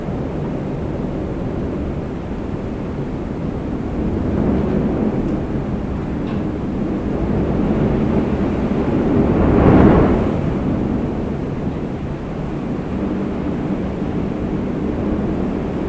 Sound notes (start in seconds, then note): 2.3 wheels on the runway